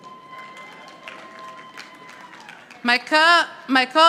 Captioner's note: audience applauding